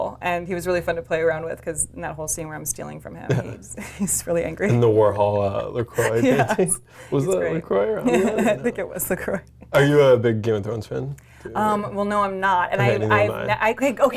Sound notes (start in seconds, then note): 5.9 laughs